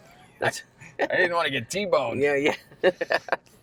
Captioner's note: laughter